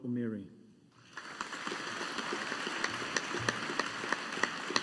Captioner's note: audience applauding